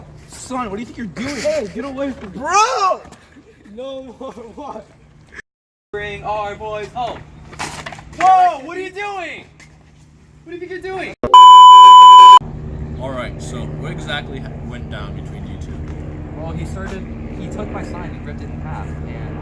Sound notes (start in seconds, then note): 11.3 static noises